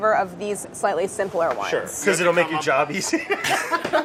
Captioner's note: laughs